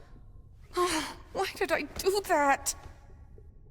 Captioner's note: sighs